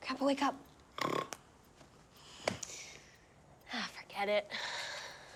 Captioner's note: Sam snoring